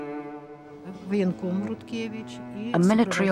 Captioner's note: woman speaking Russian